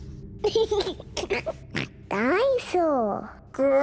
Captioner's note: laughs and oinks